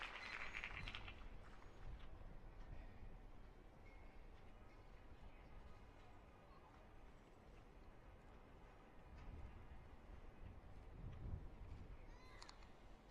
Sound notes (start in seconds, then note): 0.0 applause